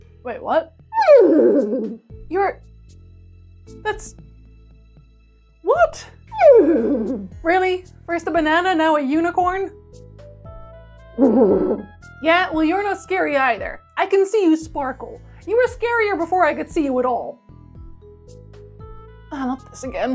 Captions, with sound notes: wait what? *Neighing* You're... that's.. what? *Neighing* Really? First a banana now a unicorn? *Neighing* Yeah, well you're not scary either! I can see you sparkle. You were scarier before I could see you at all. Ah not this again.